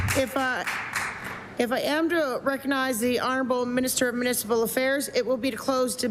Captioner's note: applause